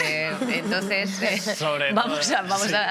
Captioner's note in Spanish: algunos ríen